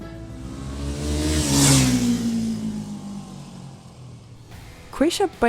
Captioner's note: motorcycle zooms